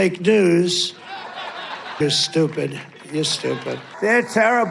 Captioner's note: laughter